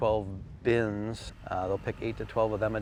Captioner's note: tractor rumbling